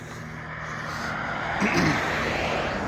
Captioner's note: clears throat